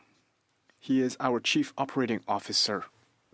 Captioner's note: speaking French